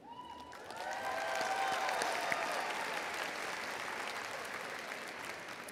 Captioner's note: audience cheering